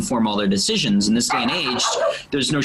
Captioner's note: dog barking